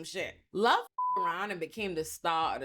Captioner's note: beep